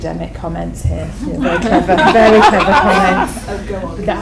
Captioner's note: audience laughter